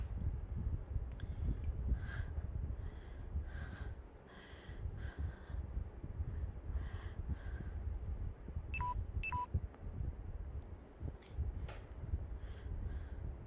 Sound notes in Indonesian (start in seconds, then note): 8.7 Suara baterai lemah